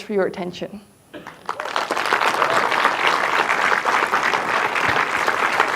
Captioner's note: audience applauding